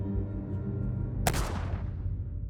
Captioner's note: dramatic music; gunshot